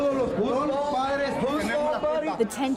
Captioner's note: overlapping shouting